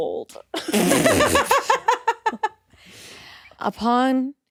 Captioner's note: all laughing